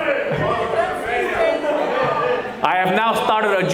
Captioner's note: people shouting